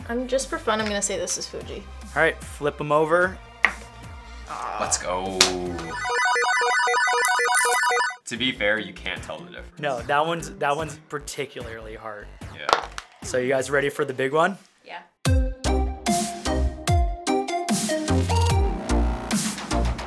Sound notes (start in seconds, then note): 6.0 beep; 15.3 bright upbeat music